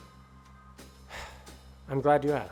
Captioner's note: sighs